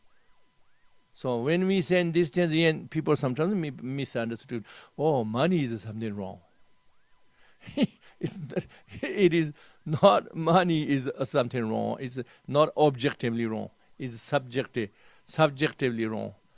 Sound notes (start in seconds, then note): 8.2 laughs